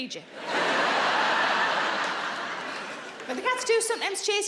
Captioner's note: audience laughing